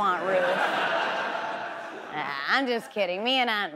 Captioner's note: audience laughs